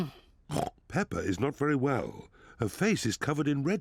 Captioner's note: oinks